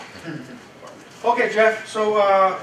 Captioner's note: chuckles